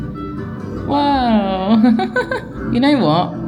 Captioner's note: laughing